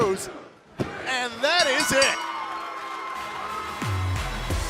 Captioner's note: bell ringing